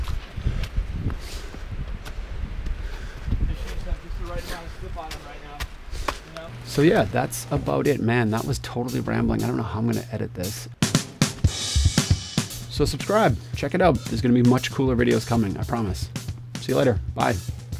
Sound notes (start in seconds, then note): 0.0 sfx: breathing; 2.5 breathing, footsteps